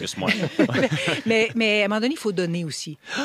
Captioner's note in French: rires